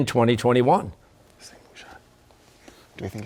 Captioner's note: whispering